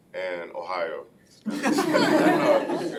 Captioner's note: laughing